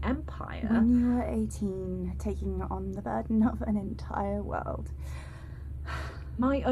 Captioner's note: sighs